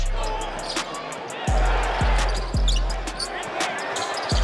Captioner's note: crowd cheering